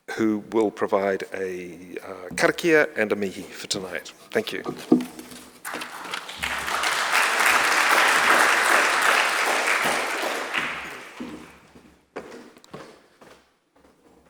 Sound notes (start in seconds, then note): 5.6 audience applauding